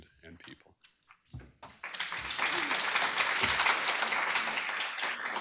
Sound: applause

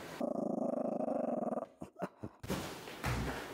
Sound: dog growling

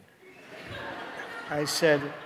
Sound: audience laughing

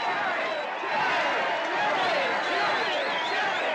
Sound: crowd continue chanting Jerry

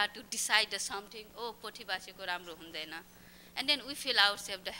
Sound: non-english speech

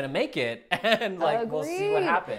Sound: laughs

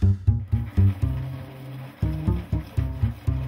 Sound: pencil sharpener sound

